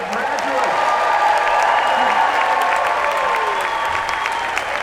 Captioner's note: applause, cheers